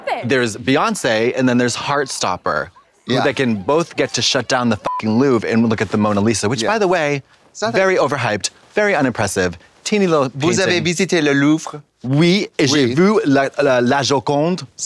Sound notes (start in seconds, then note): 4.8 beep